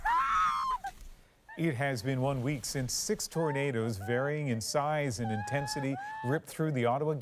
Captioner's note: screaming